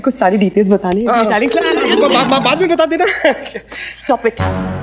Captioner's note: Laughs